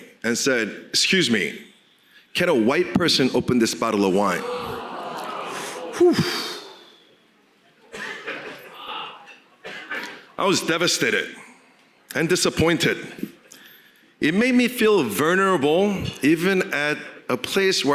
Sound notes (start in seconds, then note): 4.1 crowd exclaiming; 4.7 sighing